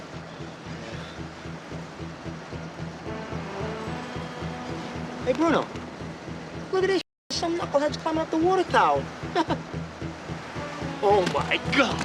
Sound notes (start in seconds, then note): 9.3 chuckles